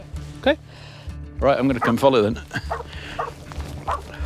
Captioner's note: Amber barking